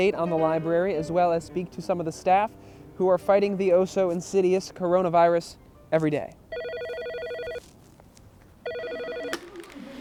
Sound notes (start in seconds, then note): 6.5 phone ringing